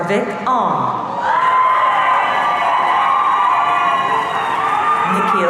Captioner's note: audience cheering